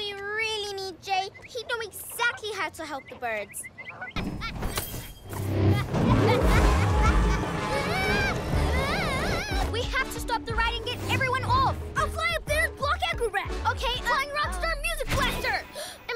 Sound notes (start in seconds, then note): 5.5 evil laughter; 6.6 screaming